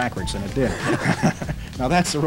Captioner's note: both laugh